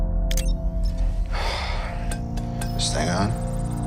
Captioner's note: sighs